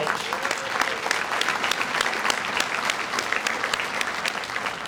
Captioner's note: audience applauds